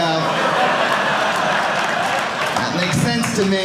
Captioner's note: audience laughing